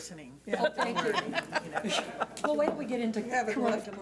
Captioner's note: laughs